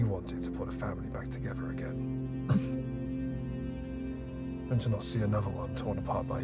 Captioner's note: coughing